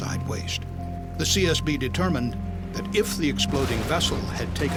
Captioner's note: sound of explosion